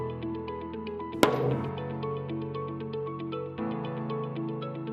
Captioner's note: hammer banging